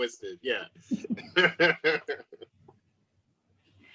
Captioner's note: laughs